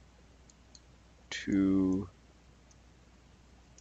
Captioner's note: clicking